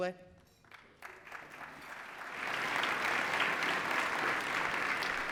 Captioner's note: applause